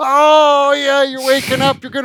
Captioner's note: laughs